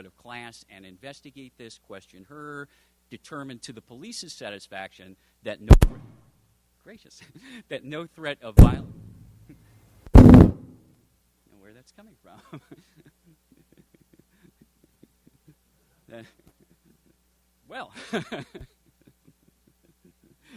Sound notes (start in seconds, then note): 5.8 mic static; 12.5 laughs